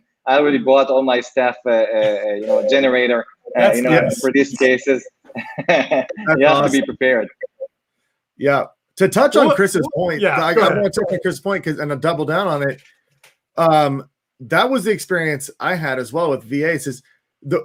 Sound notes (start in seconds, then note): 5.2 laughs